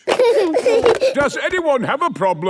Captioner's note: giggling